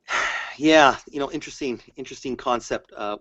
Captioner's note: sighs